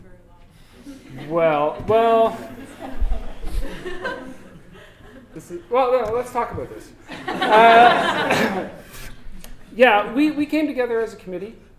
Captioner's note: audience: Laughter; more Laughter